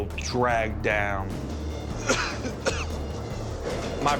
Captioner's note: coughs